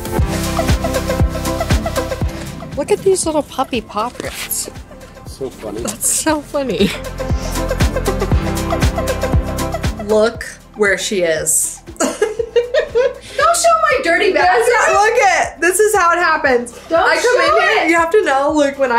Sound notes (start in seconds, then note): 0.1 upbeat music; 7.6 upbeat music; 11.8 laughs